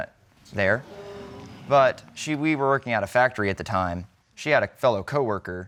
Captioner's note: audience exclaiming